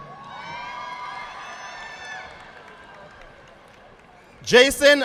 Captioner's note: audience applauding